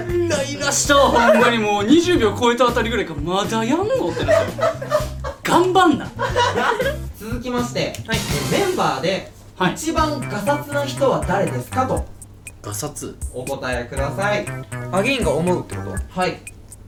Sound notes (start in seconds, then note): 3.7 laughs